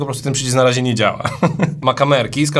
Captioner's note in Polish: śmiech